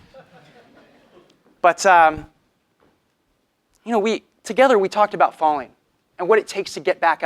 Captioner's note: laugh